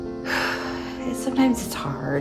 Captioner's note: exhales